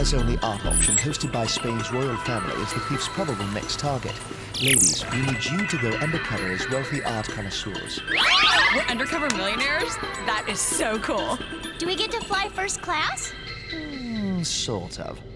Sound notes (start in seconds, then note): 9.2 shrieks